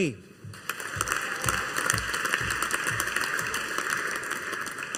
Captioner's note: audience applauding